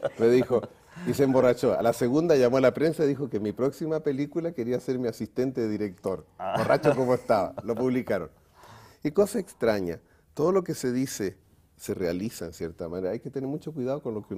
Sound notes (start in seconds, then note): 6.5 ríen